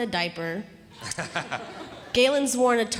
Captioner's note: audience laughing